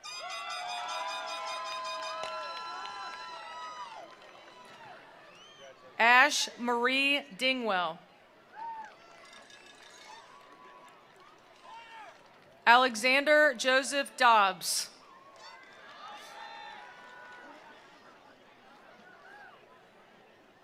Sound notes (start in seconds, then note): 0.0 attendees cheering; 0.6 attendees applauding; 8.4 attendees cheering; 9.6 attendees applauding; 15.0 attendees cheering; 15.2 attendees applauding